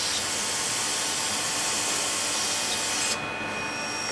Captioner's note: machine noise